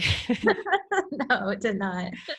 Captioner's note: laughter